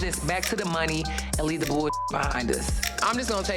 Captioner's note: beep